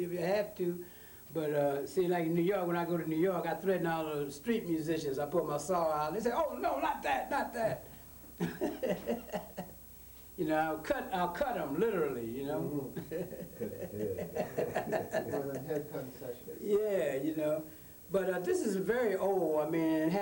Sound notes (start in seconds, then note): 12.7 laughs; 18.0 laughs